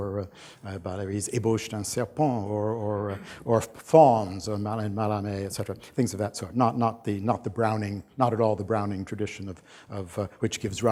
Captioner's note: french; non-english